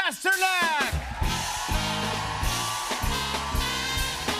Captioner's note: cheers and applause